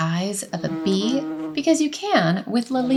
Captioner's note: bee buzzing